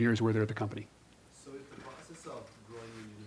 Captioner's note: voiceover